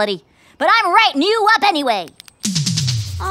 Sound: clicks pen

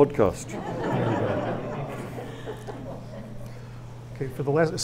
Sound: audience laughs

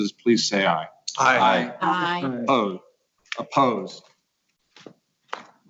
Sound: multiple voices

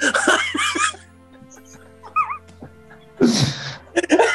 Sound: giggling; building laughter; laughter

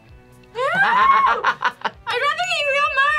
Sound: laughs

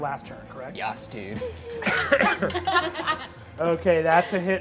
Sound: laughs

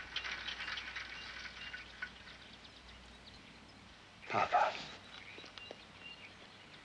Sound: birds singing

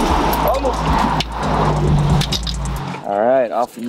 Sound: speaks Spanish

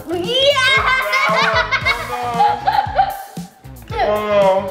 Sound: laughs

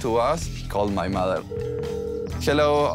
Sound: phone ringing

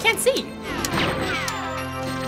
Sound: bullets bouncing

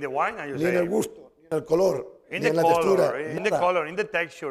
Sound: speaking spanish

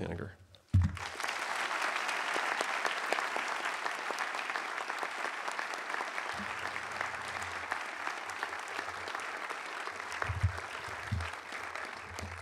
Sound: applause

